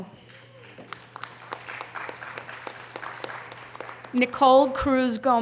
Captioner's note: audience applause